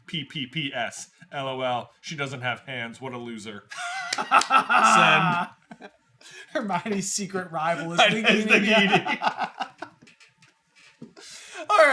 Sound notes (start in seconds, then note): 3.7 laughing